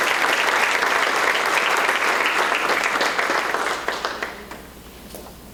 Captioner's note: applause